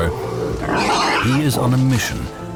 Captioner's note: boar squealing